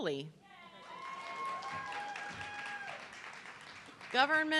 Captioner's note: audience clapping